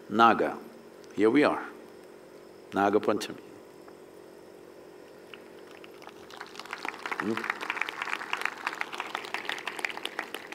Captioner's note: applause